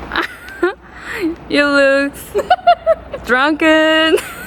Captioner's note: laughs